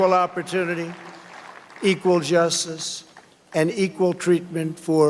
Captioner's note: cheers and applause